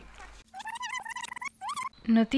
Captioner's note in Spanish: Sonido de rebobinar